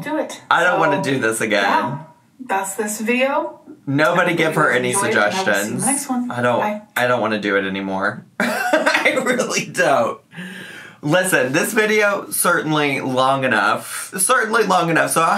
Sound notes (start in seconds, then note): 8.4 laughs